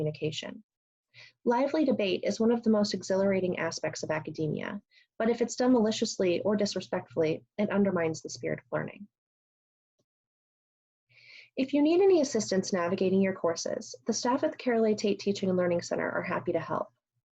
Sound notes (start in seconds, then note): 9.5 pause